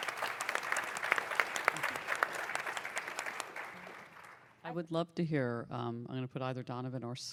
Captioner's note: applause